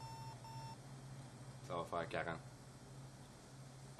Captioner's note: beeping